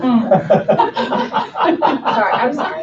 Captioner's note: laughing